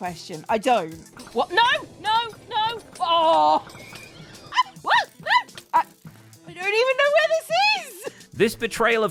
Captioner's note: hysterical laughter